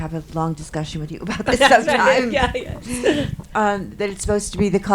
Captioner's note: laughs